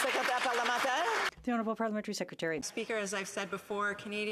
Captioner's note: some Applause